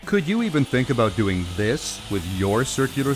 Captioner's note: voiceover